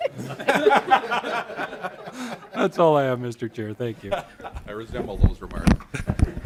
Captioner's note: laughter